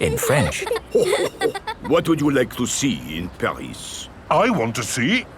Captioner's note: chuckles